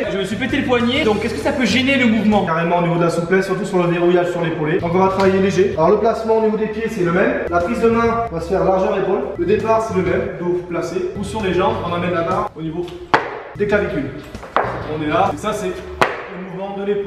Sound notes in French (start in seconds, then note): none